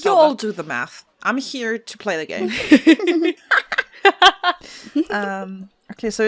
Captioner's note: laughter